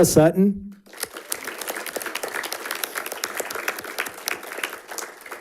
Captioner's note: audience applauding